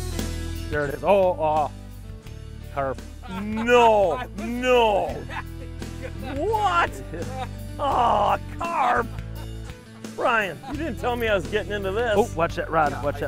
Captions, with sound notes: (laughter) No, no, what? Aw, carp! Brian, you didn't tell me I was getting into this. - Oh, watch that brine.